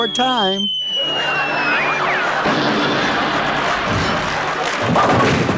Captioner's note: audience laughing and clapping